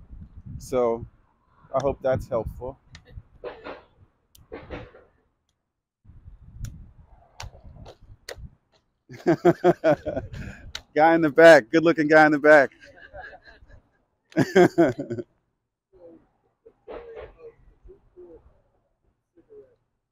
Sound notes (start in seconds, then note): 9.1 laughs; 14.3 and the audience laughs